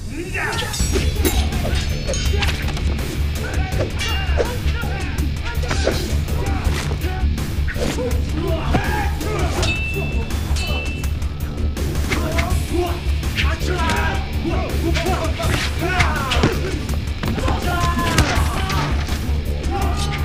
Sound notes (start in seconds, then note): 0.2 grunting; 0.6 metal clinking; 5.2 bones creaking; 9.6 metal clanking; 14.9 thudding